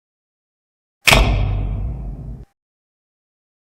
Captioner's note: old fashioned spotlight 'thunking' on